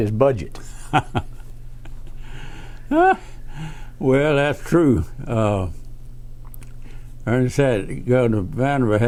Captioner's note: laughs